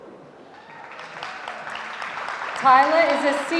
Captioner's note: audience applauding